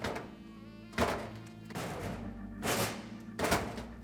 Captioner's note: clank